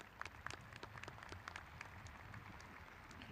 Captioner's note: applauding